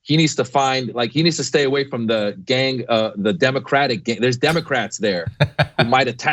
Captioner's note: laugh